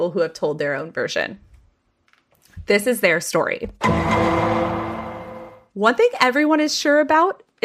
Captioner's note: Law and Order sound